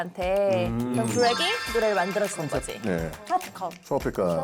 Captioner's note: human alchemist sound effect